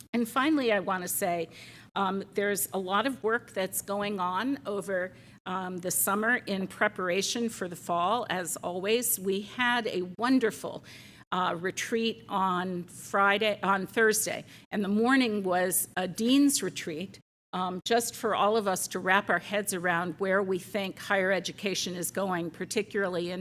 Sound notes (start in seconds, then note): none